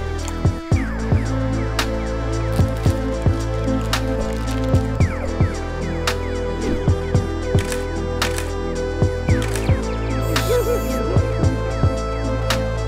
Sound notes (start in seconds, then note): 3.1 rustling; 9.4 camera shutter closes; 10.2 owl hoots